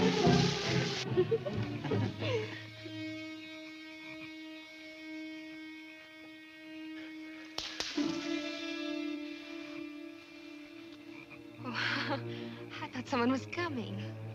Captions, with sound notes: (woman laughing) (gentle music) (twig snapping) - Oh, I thought someone was coming.